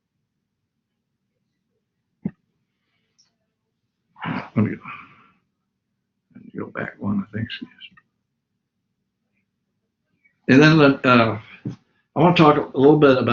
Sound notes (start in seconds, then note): 4.2 sighs; 7.8 whispers